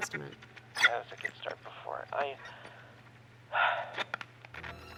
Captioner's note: static; sighs; static